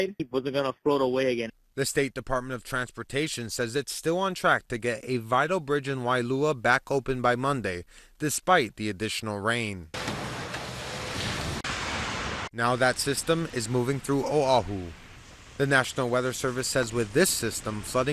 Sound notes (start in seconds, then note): 10.0 cars revving; 10.7 water splashing